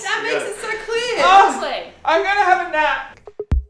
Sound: groans; upbeat music

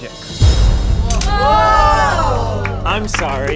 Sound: audience gasps

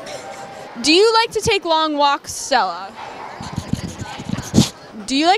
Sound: dog sniffing

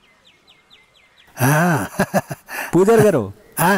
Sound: laughs

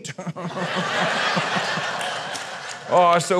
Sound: laughter

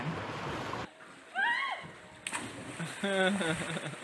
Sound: screaming; laughing

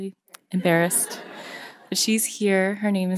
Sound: audience laughing

